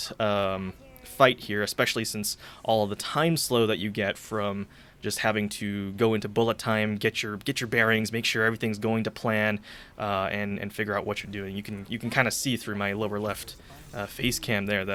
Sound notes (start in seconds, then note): 7.2 stammering